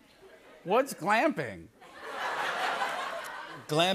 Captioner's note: laughter